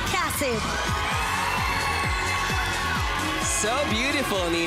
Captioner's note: applause, cheering